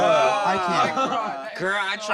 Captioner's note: groans